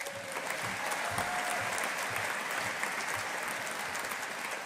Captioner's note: audience applauding